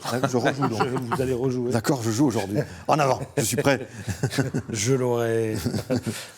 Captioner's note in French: rires